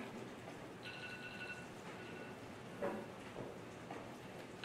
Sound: alarm ringing

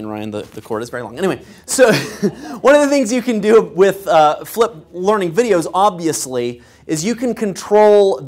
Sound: laugh

